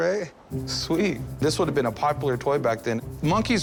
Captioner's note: none